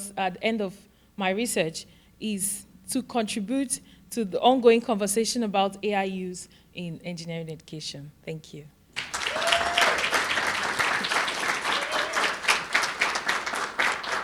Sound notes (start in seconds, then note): 8.9 audience cheering and applauding